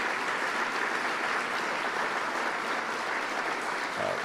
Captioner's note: applause